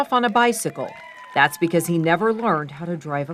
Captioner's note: crowd cheering